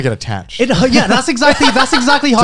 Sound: laughing

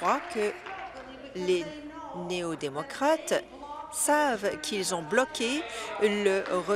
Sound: applause

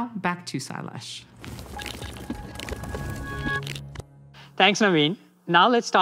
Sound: transition sound effect

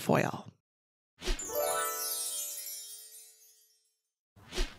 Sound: gentle chiming

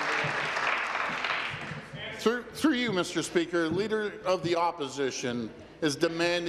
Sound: applause

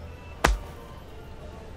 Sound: smack!

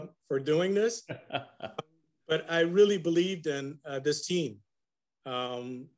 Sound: laugh

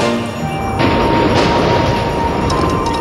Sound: rumbling

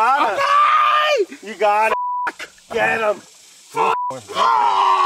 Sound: yelling and laughing

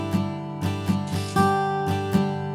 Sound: paper tear

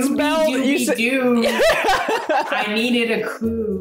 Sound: laughs

